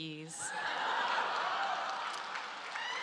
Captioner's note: applause